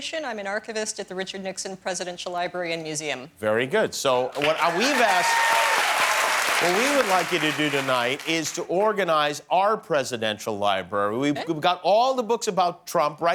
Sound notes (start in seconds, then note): 4.3 cheers and applause